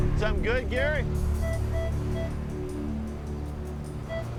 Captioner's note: beeping